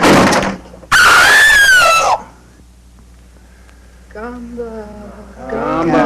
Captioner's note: woman screams